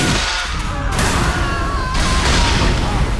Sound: gunshot; screaming, crashing, shark viciously murders michelle

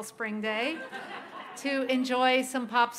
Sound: laughter

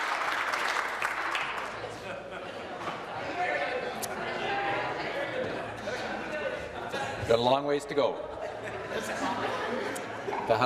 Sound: person shouting; applause

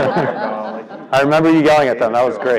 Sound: laugh

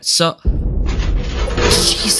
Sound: blast

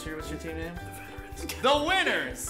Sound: whispering

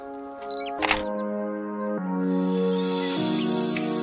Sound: beep and click; upbeat music

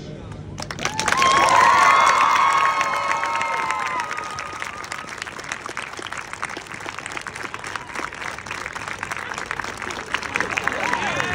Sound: cheers, applause, and excitement

